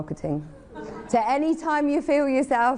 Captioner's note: audience laughing